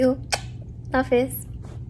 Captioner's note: blows kiss